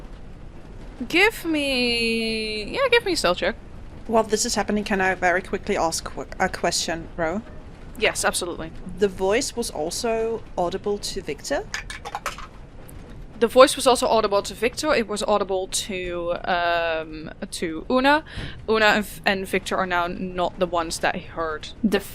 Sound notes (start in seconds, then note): 7.0 metallic tapping; 11.7 Dice tower clacks